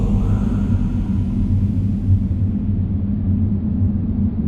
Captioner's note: wind howls